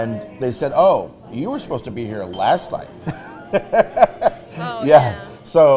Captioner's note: laughs